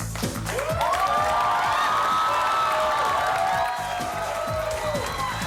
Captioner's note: audience cheers